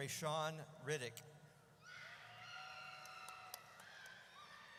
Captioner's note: audience cheers